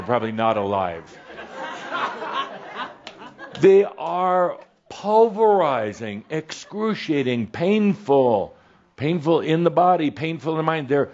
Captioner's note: some chuckles